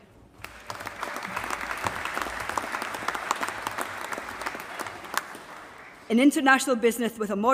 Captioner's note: applause